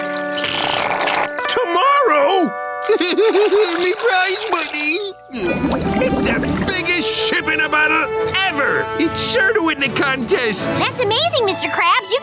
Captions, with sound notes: Tomorrow? [crying] My prize money! It's the biggest ship in a bottle ever! It's sure to win the contest! That's amazing Mr. Krabs!